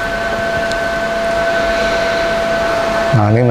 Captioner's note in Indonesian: suara mesin printer; menghela nafas; suara mesin printer